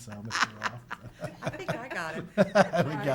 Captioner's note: laughing